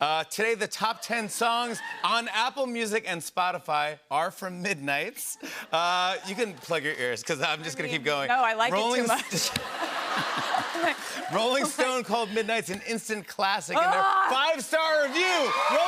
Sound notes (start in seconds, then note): 8.9 laughter